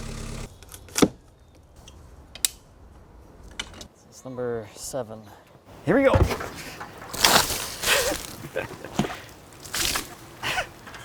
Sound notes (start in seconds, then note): 1.2 wood thudding; 2.8 metal clanking; 7.1 water splashing; 8.1 laughing; 9.7 water splashing; 10.8 laughing